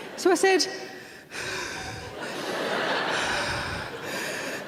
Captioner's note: deep breathes